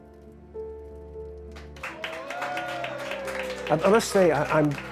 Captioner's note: applause and cheering